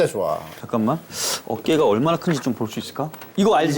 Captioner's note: rummaging